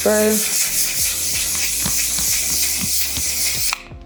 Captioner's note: bottle spraying